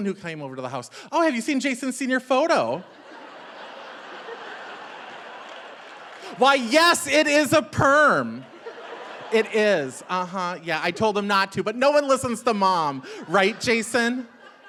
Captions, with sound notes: who came over to the house, "Oh, have you seen Jason's senior photo?" (audience laughing) Why, yes, it is a perm. It is, yeah, I told him not to, but no one listens to mom, right, Jason?